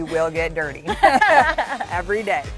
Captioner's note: laughter